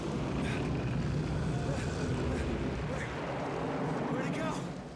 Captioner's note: Bill gasping